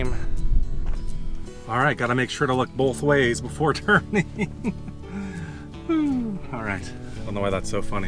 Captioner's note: laugher